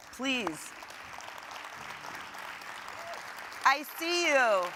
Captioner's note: audience applauding